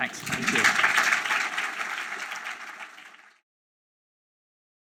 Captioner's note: applause